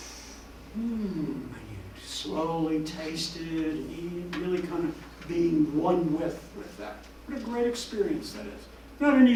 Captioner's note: inhaling